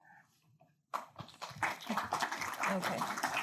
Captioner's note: audience applauding